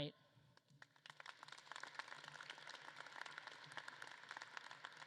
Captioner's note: audience claps